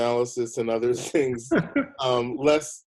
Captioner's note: laughing; chuckling